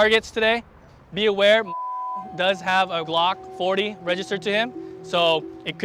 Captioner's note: beep